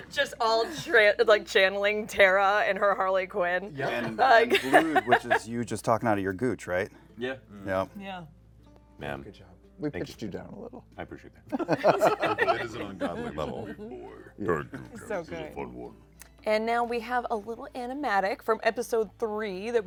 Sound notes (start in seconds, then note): 11.5 laughter